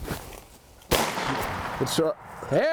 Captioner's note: gun shots